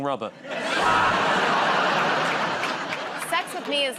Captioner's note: laughter